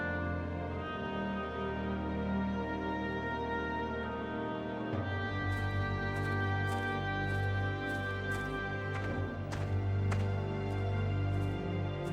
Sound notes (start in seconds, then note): 5.4 footsteps